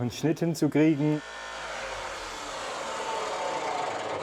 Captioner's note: drilling noises